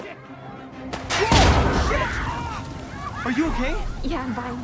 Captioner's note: bullet ricochets